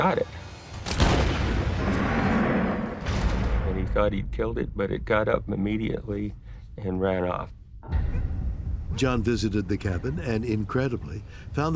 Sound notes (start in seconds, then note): 0.7 gunshot; 1.7 roaring